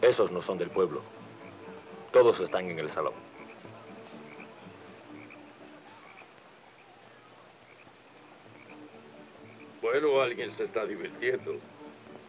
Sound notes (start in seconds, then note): 4.6 people chattering; 4.6 people laughing; 6.7 upbeat piano music plays in saloon